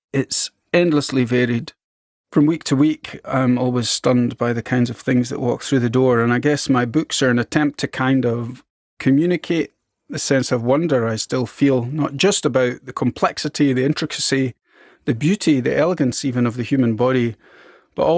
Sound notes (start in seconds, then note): none